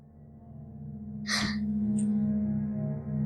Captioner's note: gasps